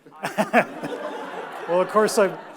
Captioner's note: audience laughs